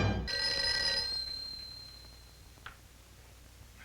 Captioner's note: phone ringing